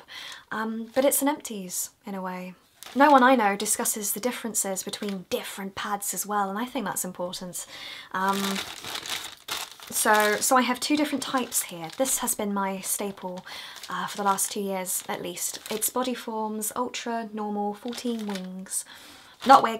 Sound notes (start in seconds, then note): 8.2 packing makes noises